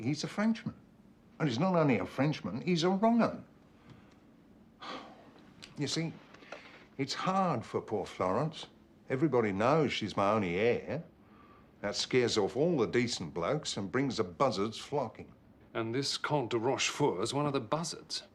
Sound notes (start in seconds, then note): 4.8 Menghela napas